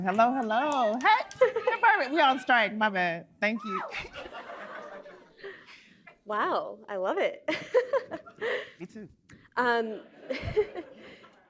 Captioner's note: cheering